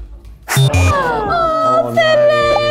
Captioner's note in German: Fehlerton